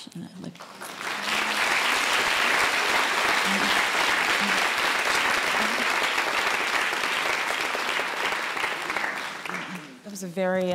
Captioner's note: applause